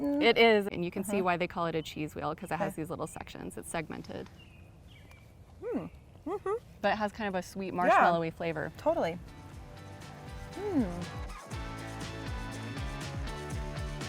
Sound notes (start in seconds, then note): 5.7 hums in approval; 10.8 soft, upbeat music